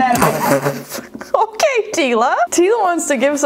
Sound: laughs

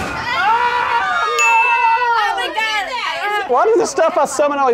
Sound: screaming

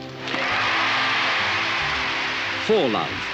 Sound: racket hitting ball; crowd cheering and applauding

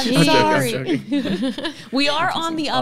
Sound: laughing; laughs

